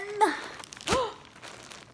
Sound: gasp!

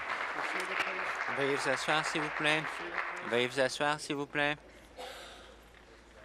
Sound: applause

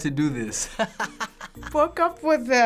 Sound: laughing

